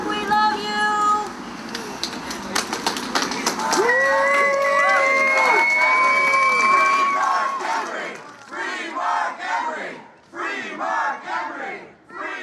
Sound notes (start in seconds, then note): 1.7 applause; 4.1 crowd chanting; 10.2 chanting continues